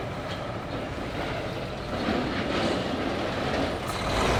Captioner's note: none